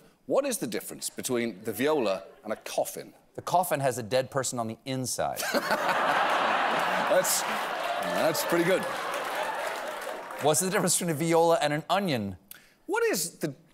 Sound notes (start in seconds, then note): 8.1 laughter